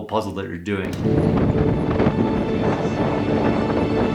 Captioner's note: air whooshing; slow majestic music